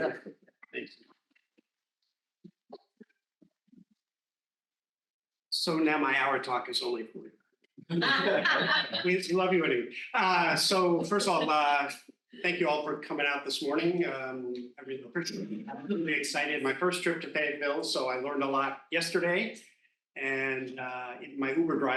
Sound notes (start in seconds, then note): 9.7 laughing